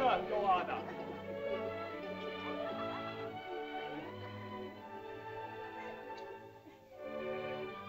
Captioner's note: soft music; children giggle; sentimental music